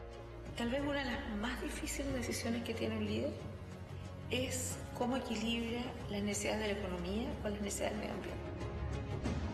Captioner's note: speaking spanish